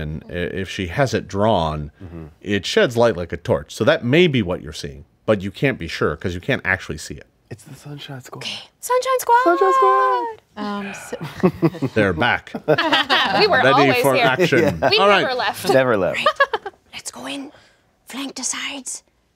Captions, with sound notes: and if she has it drawn, it sheds light like a torch, so that may be what you're seeing, but you can't be sure, 'cause you can't actually see it. - It's the Sunshine Squad. - Sunshine Squad. - Sunshine Squad. - They're back. (everyone laughing) - We were always here. - Ready for action. - We never left. - Never left. - Let's go in, flank the sides